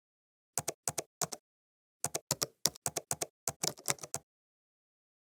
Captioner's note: typing